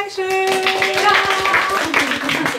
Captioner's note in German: Applaus